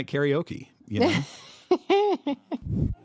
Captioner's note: laughs